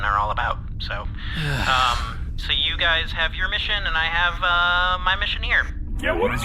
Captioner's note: Pleck sighs